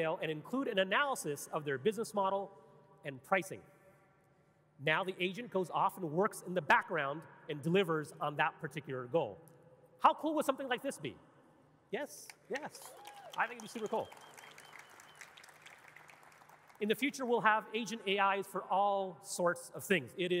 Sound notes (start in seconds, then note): 12.3 audience clapping and cheering